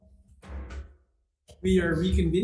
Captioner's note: hammer thuds